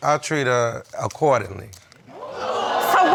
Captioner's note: audience groans